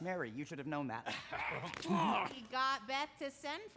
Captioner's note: frank grunts excitedly